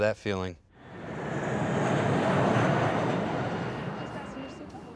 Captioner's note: jet engine roaring